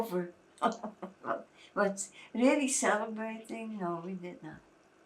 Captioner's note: laughing